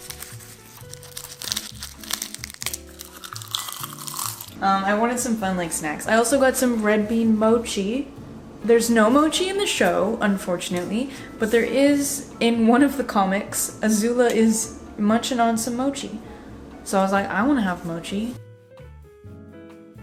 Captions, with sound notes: *seaweed crinkles* *crunches seaweed* Um, I wanted some fun like snacks. I also got some red bean mochi! There's no mochi in the show, unfortunately, but there is in one of the comics. Azula is munching on some mochi, so I was like I want to have mochi